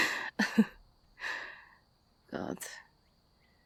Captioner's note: soft laughs